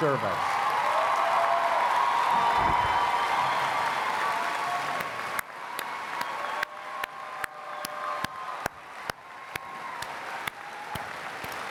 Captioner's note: cheers and Applause